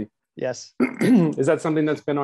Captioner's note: clearing throat